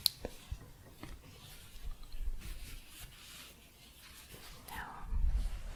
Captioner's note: shuffling